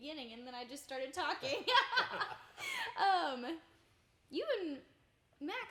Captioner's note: everyone laughing